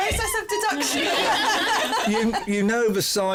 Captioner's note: laughter